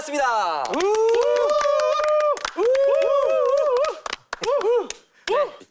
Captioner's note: applauds wildly